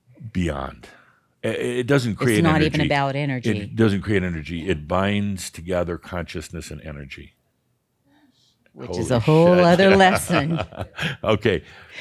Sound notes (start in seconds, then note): 9.2 chuckles